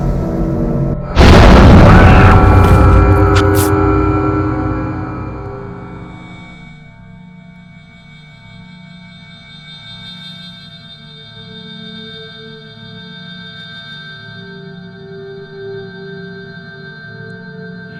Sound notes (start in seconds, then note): 1.2 muffled scream; 3.3 fabric tearing